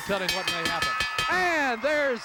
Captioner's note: bell rings